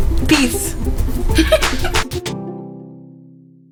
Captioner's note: laughs